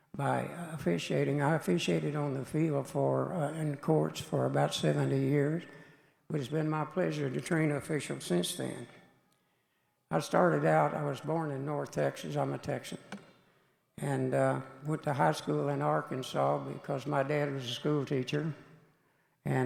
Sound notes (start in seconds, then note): none